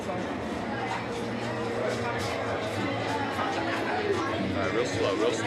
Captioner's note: chatter